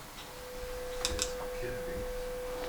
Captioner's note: high pitched noise